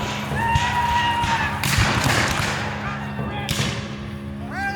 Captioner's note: guns fire